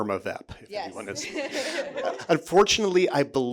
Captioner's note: audience chuckling